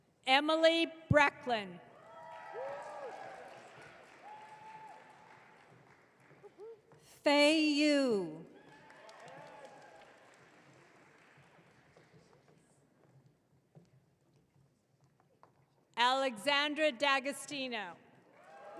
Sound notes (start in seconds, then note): 2.0 audience cheering; 8.6 audience cheering